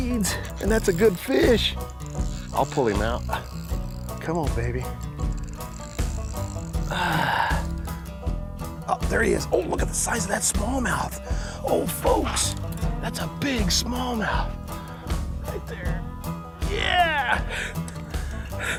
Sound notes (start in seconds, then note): 6.8 sighs